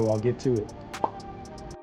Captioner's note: pop